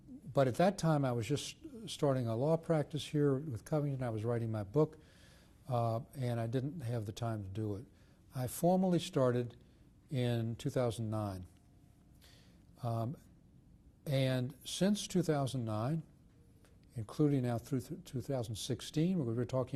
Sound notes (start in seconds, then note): 11.0 pauses for 3 seconds